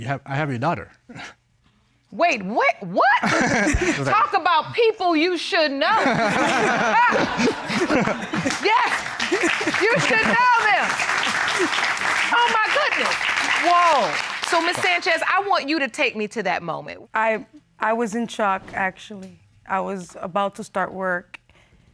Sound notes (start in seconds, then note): 3.2 both chuckle; 5.9 all laughing